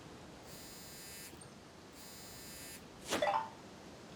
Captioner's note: cell phone